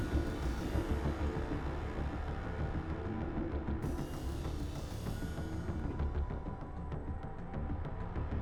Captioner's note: none